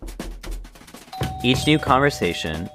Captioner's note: knock